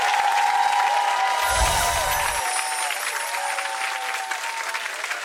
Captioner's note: tinkling sound